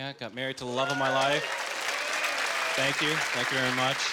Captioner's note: applauding